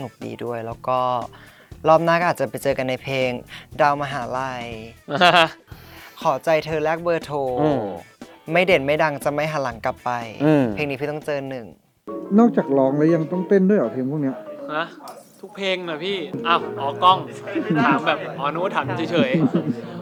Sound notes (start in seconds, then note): 5.0 laughs